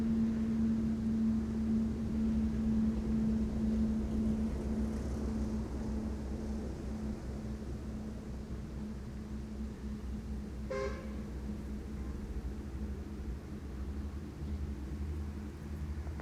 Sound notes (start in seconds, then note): 10.6 horn blaring